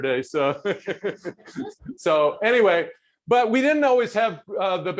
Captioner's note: laughs